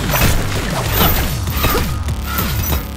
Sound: grunting

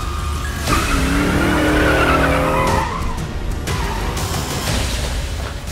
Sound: car engine roaring

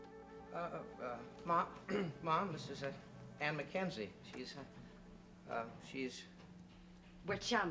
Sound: clears throat

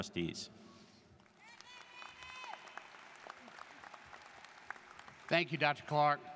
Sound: students cheering and applauding

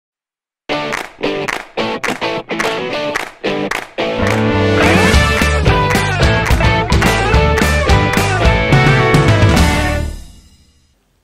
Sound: claps

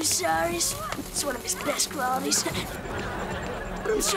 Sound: chuckles

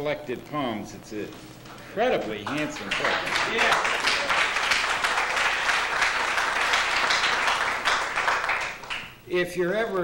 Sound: applause

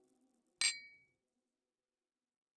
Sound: glasses clink

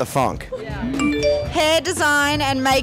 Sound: phone chiming

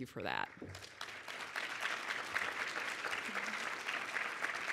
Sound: audience applauds

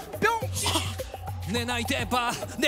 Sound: shocked

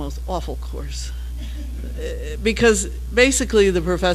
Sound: laugh

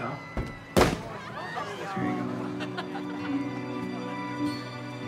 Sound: kids laughing

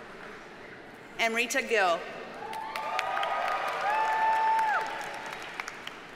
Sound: audience cheers and applauds

